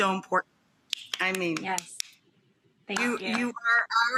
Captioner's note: claps